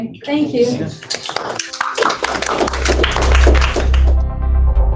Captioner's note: applause